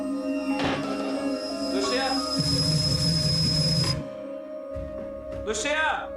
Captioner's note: eerie music; kettle whistles